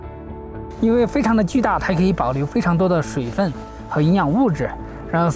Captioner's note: speaking Chinese